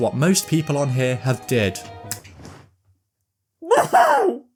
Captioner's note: scream of the damned